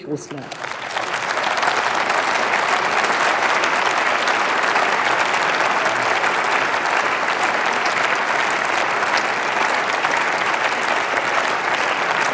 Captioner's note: Applause by CDU/CSU, SPD and the Greens